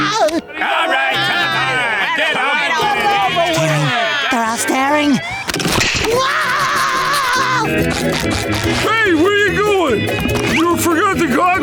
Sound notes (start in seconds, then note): 5.6 screaming